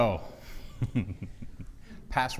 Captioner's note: chuckles